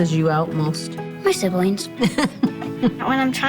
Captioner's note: laughs